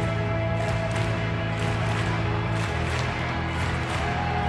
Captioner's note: crowd clapping and stomping